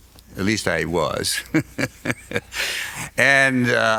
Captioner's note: laughs